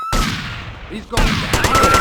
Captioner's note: gunshots